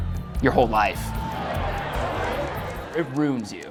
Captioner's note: crowded sports bar